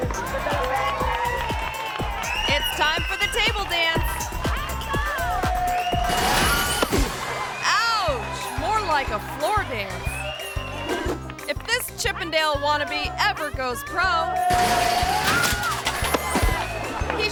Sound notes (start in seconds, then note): 0.2 group cheers; 6.1 table crashes; 14.4 table crashes